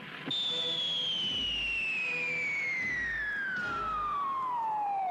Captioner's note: rock whistling